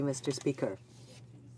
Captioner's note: speaking French